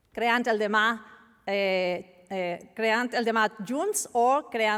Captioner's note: speaking spanish